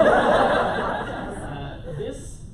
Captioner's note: laughter